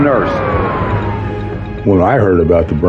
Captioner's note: sireren n waililini